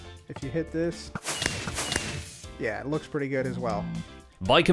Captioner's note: fireworks explode